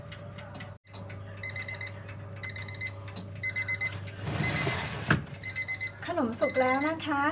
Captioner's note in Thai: เสียงนาฬิกาจับเวลาดัง